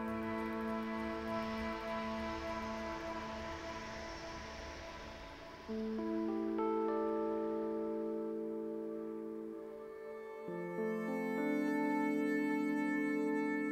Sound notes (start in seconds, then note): 3.3 airplane taking off; 10.5 somber violin music